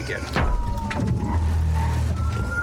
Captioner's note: thuds